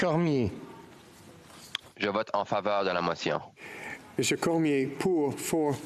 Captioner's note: speaking FRENCH